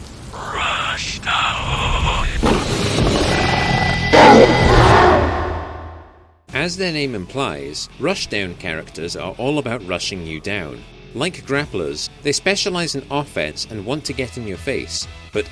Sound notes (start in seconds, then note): 0.0 sound of heavy rain falling; 4.0 rushdown player sounds